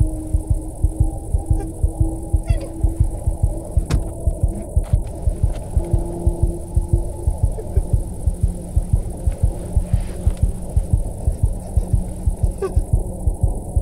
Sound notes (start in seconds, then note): 3.8 fist thumping; 12.9 Sandra crying softly; 12.9 unsettling music continues